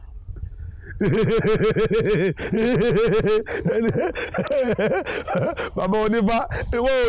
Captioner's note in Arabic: تقليد ضحك الناس في السوق